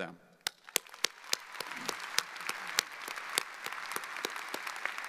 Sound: audience applauding

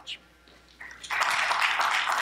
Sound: applause

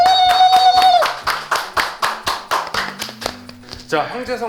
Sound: the crowd applauds

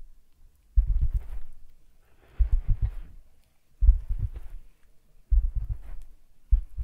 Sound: tapping with fingers

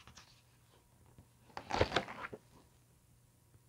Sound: flips page obnoxiously

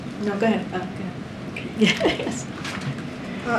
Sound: laughs

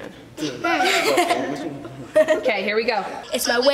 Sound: all laugh

